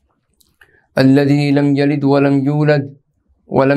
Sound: arabic

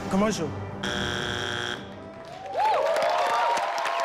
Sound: buzzing sound; crowd cheers

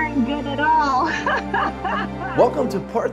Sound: laughs

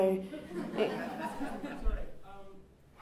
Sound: chuckles

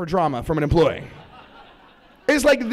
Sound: laughter

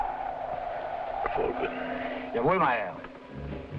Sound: Gregory speaking foreign language; driver speaking foreign language

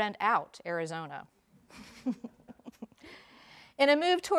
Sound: laughing

